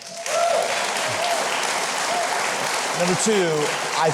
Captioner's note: audience applauds